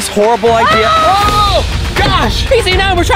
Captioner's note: screaming